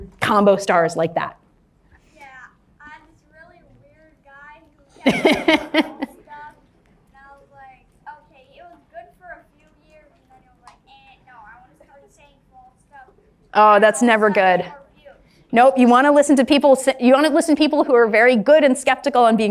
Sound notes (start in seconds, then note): 5.0 laughs